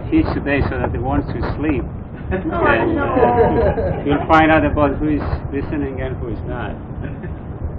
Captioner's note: Gülüşmeler